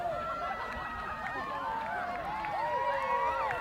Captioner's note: cheers, applause